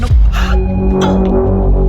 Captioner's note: gasps